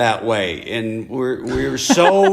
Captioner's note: laughter